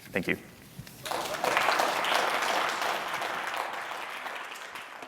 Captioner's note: audience applauding